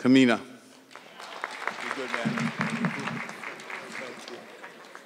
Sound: audience clapping

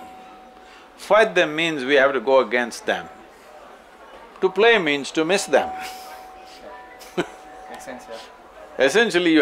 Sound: laughs

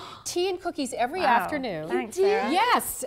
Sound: gasp

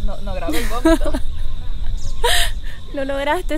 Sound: laughing

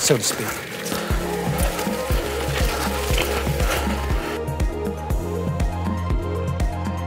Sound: bike wheels zipping; upbeat music

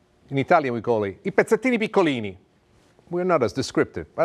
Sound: speaks Italian

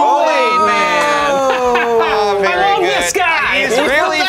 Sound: laughs

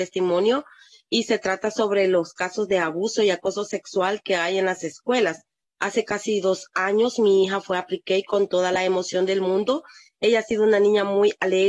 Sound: speaking in spanish

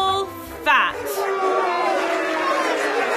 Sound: jeering, barking

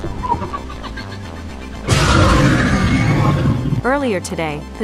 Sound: demogorgon cries

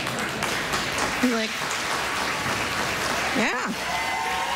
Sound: applause

